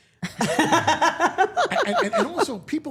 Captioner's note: Steph laughing